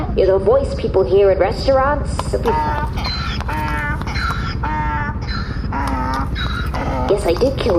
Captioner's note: braying